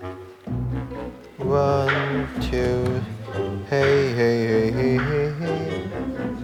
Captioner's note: humming